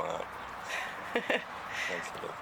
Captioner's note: laughs